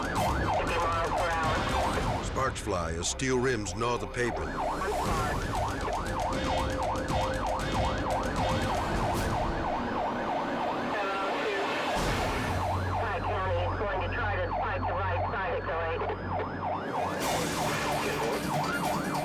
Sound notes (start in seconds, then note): 5.1 sirens wailing; 5.1 tense music continues; 15.9 dramatic music; 17.0 sirens wailing